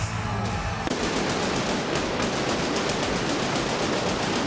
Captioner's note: fireworks booming